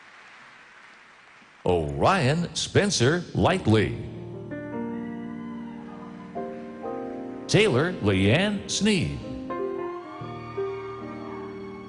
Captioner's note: applause